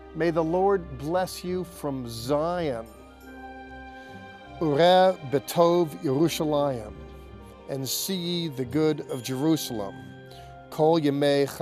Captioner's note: speaking first in Hebrew